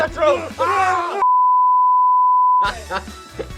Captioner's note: long beep